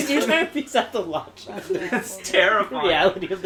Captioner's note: laughter